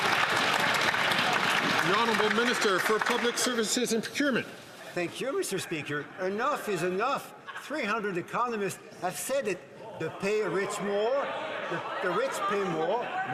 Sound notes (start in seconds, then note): 2.4 some Applause